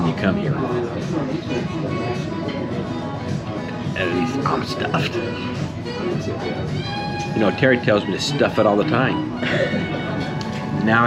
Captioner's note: giggle